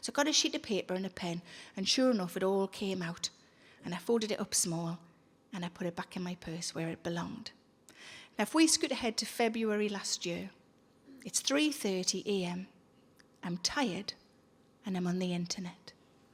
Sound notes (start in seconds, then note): none